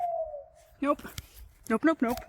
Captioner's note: owl hooting